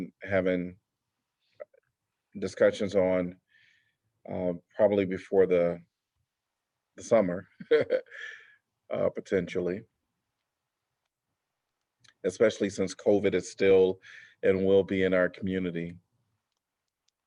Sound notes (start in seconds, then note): 7.5 laughter